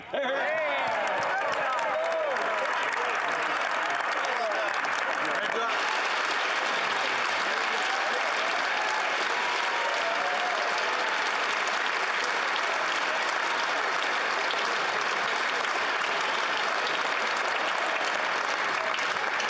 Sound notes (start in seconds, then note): 4.5 some Applause; 6.1 some Laughter